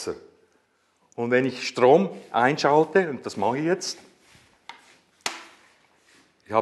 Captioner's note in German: Schalter klickt